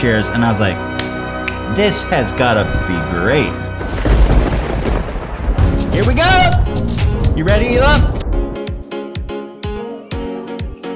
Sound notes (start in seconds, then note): 3.7 thunder